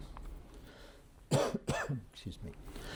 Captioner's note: lecturer coughing